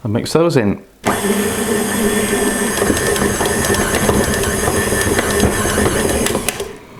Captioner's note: mixer chugging